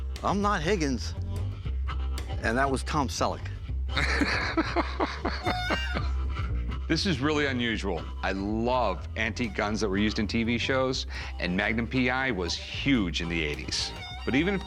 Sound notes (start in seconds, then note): 3.8 laughing